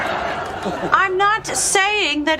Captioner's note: laugh Track